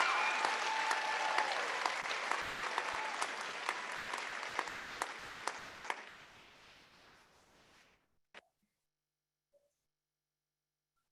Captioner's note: applause